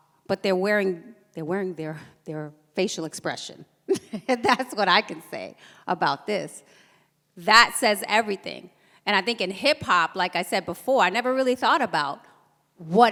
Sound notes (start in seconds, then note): 3.9 laughs